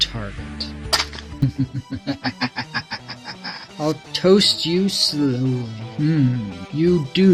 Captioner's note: maniacal laughter